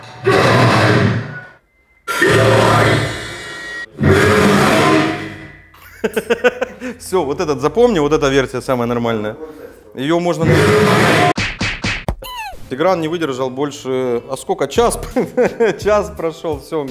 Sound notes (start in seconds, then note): 5.8 giggles